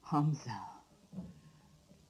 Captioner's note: whispers